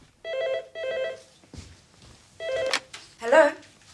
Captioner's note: phone ringing